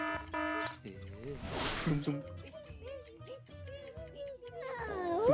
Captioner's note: buzzer; timer ticking